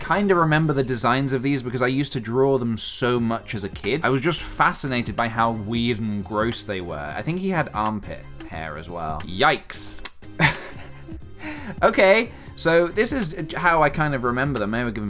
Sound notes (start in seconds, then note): 10.0 tuts; 10.4 lil laugh